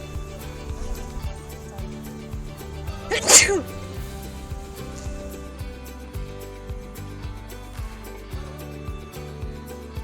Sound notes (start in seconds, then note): 3.0 sneezes; 4.6 upbeat music